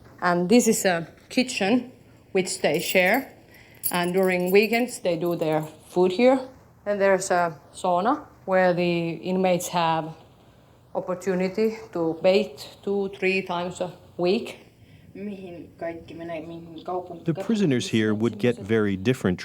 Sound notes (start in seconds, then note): 15.4 speaking foreign language